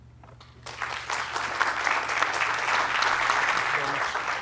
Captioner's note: applause